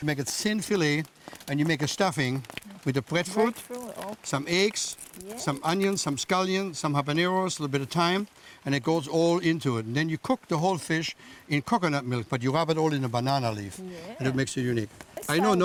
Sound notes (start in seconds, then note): 4.3 crackling